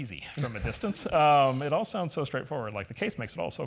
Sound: laugh

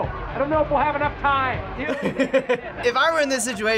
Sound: laughs

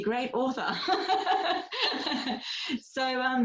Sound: laughs

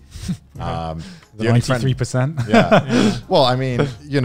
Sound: laughs

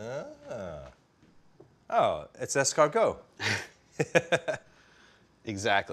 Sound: chuckling

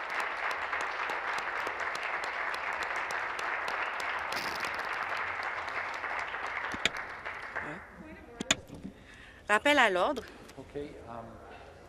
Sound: applause

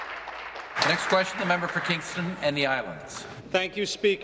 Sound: applause

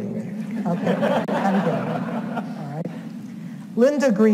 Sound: audience laughs

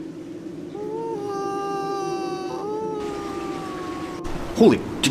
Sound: mournful moaning

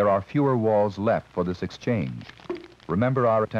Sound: bubble pops

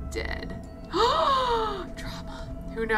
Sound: gasps

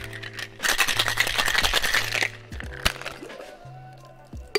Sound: ice clattering

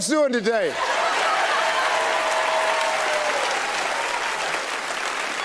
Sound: audience cheering

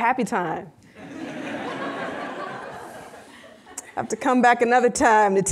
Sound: audience laughing

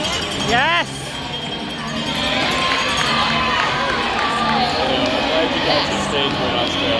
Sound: bell rings. Crowd noise; crowd cheering

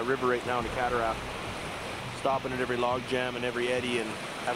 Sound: voiceover

